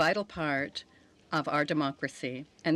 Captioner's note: speaking French